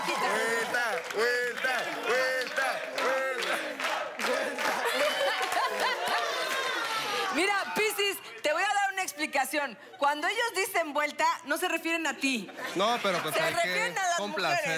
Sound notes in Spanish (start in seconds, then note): 4.5 Exclamaciones